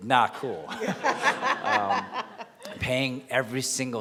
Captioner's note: laughing